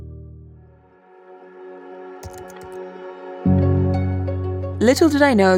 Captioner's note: bright music; keys clacking